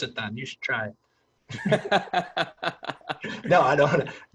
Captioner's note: laughs